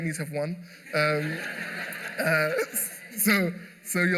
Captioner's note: laughter